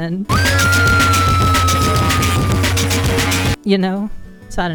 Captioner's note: chaotic music; woman screaming in anguish